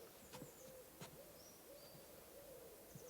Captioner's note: birds chirping